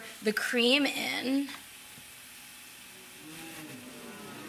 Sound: audience ooos

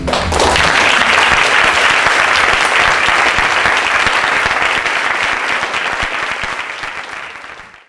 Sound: applause

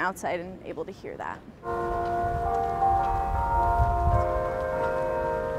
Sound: bells ringing

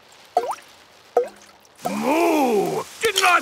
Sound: water dripping

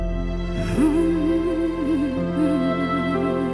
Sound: humming

